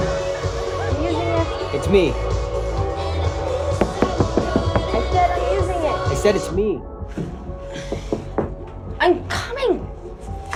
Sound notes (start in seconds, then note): 7.8 knocking